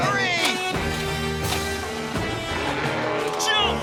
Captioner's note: engine stalling